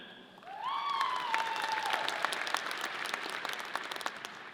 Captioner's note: audience cheering